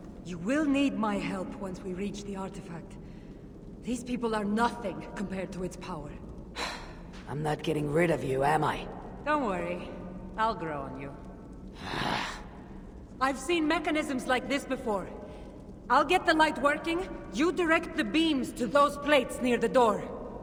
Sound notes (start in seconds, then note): 6.6 sigh; 11.8 scoff